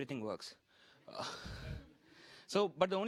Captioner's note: laughter